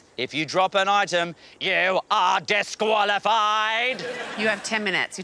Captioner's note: imitates dalek